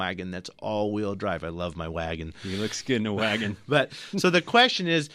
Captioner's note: laughs